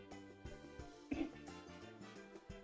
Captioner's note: clears throoat